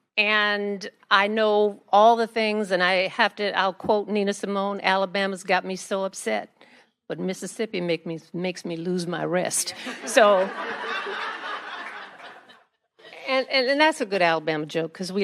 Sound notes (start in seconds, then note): 9.7 attendees laugh